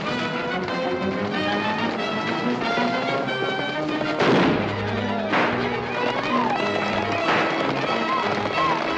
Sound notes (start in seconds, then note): 1.3 horses galloping; 4.1 gunshots